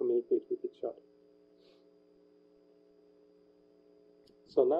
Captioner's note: pause